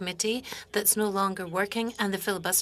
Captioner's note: speaking French